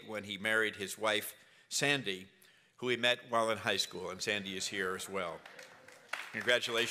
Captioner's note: applause